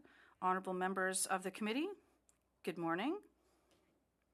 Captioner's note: speaking French